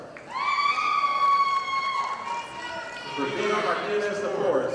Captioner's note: audience applauding